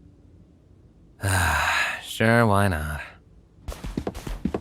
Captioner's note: sighs